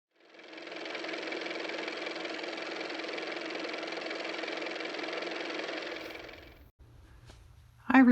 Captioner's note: car motor